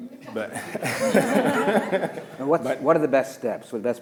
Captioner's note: all laughing